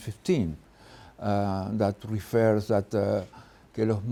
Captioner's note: speaks Spanish